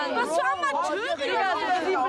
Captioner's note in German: Stimmengewirr